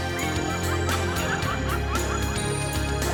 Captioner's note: laughter